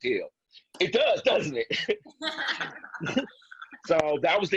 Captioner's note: laughs